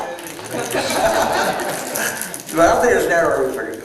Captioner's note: laughter